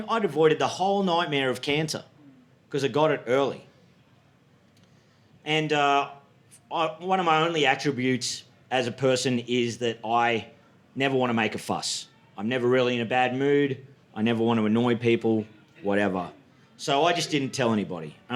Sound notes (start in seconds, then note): none